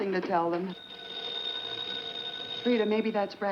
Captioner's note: phone rings